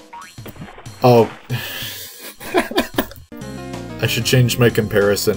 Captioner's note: laughs